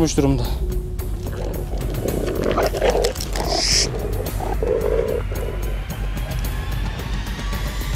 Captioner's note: growling sounds and tension music